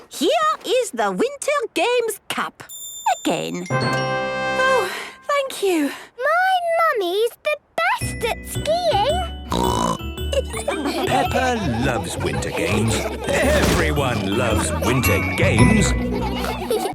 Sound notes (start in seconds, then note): 3.6 triumphant music; 9.5 snorting; 10.2 laughter